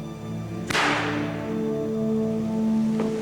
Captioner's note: gunshot